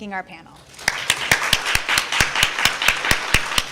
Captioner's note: crowd applauds